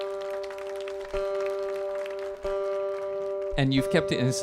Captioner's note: audience applauding